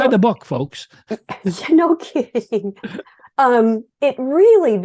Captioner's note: laughs